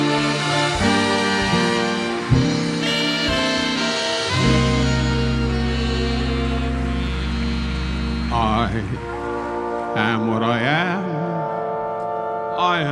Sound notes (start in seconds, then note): 2.7 audience applauding